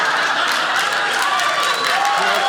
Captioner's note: audience applauding